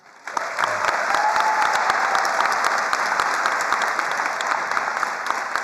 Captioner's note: attendees cheering and applauding